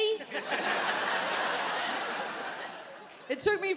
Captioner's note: audience laughs